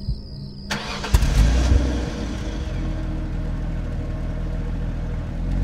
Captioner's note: car engine rumbling